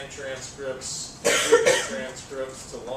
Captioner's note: cough